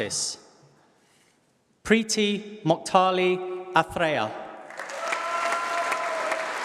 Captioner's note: applause